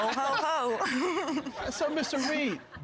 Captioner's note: audience laughing; laughs